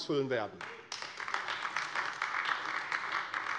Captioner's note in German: Beifall AfD